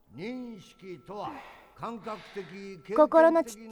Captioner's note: Maria sighs